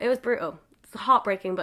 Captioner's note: none